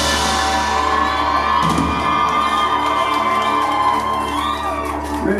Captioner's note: applause